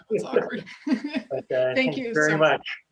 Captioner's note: laughs